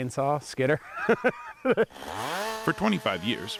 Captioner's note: laughing